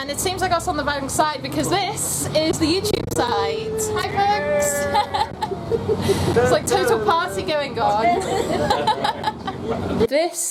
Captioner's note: laughs